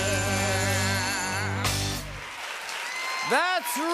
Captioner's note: cheers and applause